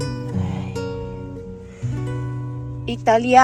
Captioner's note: sigh